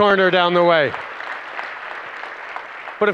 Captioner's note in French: Applaudissements